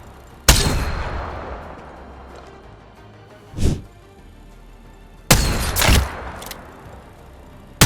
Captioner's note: sound of shooting